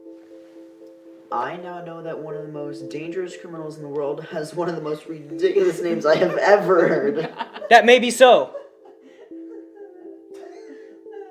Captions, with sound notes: - I now know that one of the most dangerous criminals in the world has one of the most ridiculous names I have ever heard. (all laughing) - That may be so!